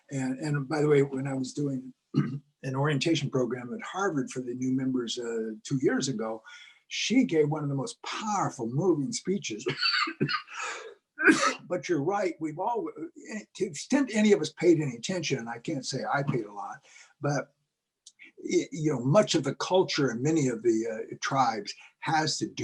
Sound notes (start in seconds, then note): 2.1 cough; 9.6 cough